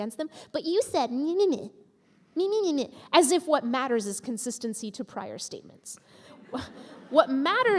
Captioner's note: mocking in nonsense voice